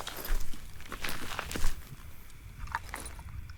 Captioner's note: footsteps crunching; hiking gear rattling